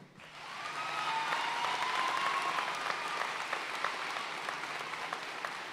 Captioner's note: audience cheering and applauding